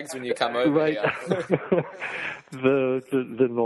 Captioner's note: laughing